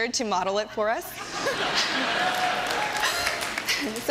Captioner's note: laughter